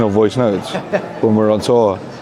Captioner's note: laughs